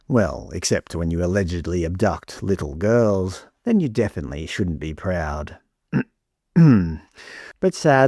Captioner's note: clears throat